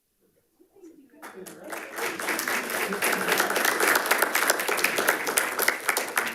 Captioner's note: audience and participants applauding